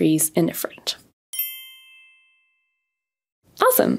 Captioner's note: bells chiming